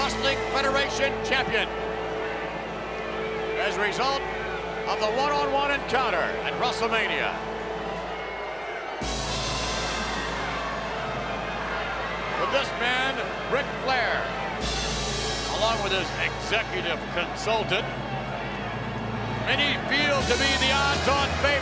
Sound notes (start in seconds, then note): 10.0 applause